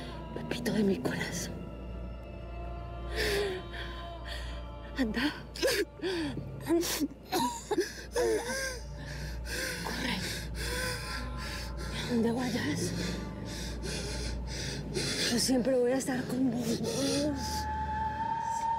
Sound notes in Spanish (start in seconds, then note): 8.1 llanto de pepito